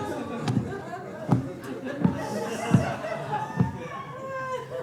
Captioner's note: audience laughing